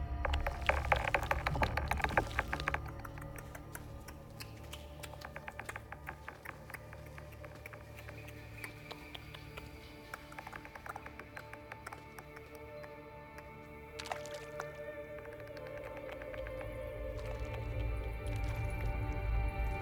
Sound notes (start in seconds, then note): 0.1 baby worm chittering; 2.7 continues clicking tongue